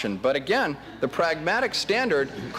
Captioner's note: laughter